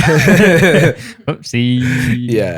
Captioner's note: laughter